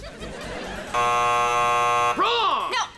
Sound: buzzing

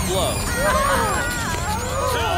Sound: screeching, groaning

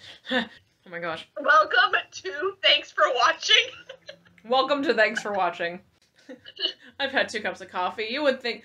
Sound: laughs

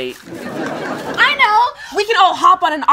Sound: audience laughs

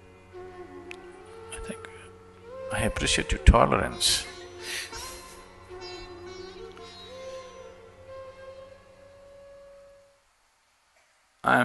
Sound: chuckles

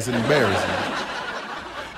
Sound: laughter

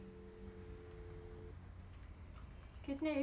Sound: click, dial tone

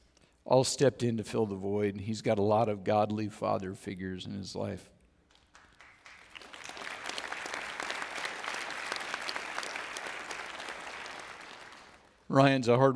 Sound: audience Applauds

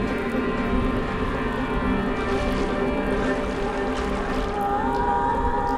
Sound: ominous sound

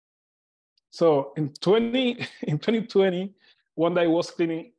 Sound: chuckles

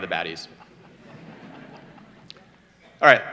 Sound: audience laughter

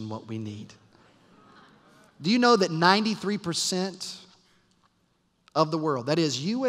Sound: laughter

